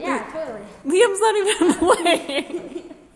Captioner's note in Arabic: يضحك